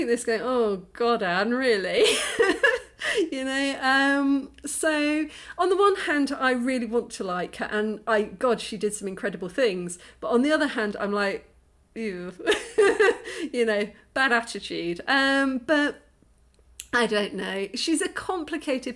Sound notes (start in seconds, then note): 12.5 laughing